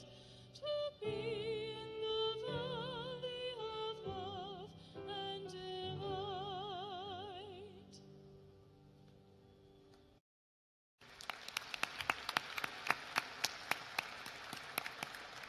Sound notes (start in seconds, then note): 11.0 applause